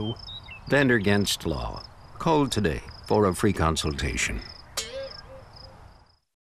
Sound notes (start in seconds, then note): 4.8 ping noise